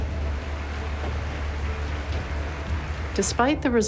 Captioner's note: audience applauding